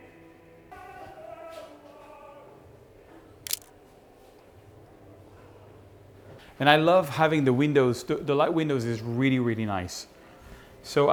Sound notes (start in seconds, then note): 3.4 camera shutter clicks